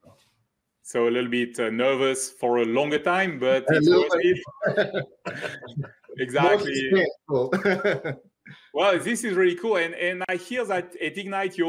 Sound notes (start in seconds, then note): 3.3 chuckles